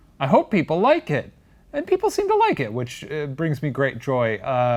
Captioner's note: none